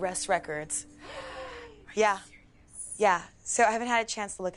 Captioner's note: gasp